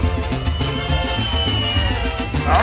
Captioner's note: crowd hooting